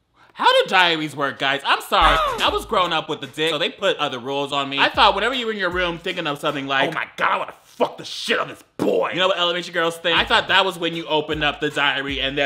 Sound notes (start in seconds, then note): 2.0 boy grunts